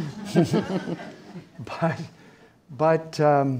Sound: audience laughing

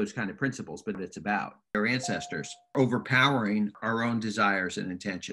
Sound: ding sound notification

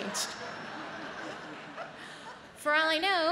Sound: audience laughs

